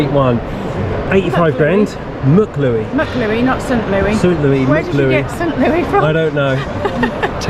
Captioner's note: laughs